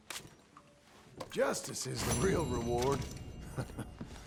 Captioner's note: chuckles